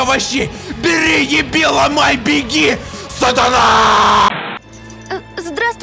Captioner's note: untranslatable russian screams